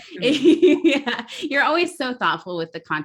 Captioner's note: laughs